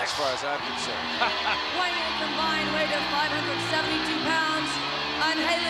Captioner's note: laugh